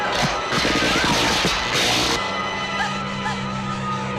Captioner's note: electrical zapping